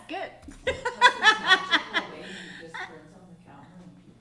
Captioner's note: laughing